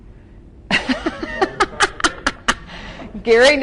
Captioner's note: gently laughs